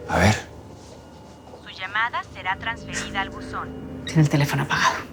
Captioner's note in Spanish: Voz en el buzón